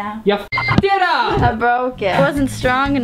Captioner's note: beep